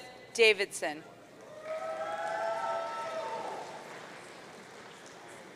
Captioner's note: audience cheering